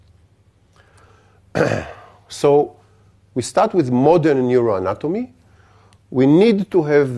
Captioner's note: cough